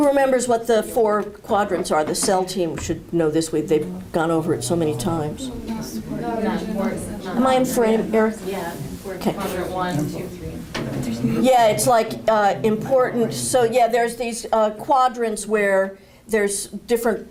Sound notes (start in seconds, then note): 3.7 crowd chatter